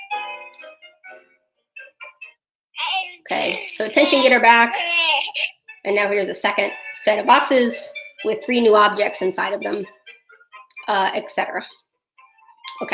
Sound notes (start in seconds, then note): 2.8 baby cooing